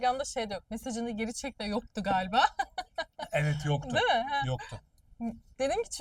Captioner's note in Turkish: kahkaha